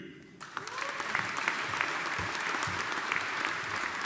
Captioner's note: audience applauding